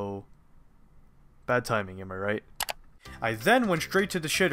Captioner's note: mouse click, music resumes